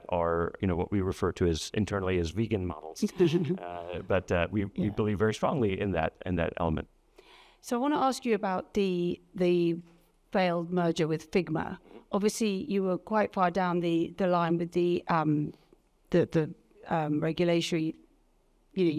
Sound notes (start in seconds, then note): 3.0 both laughing